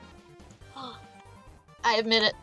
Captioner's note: tinier gasp